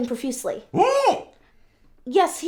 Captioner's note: Butch yelps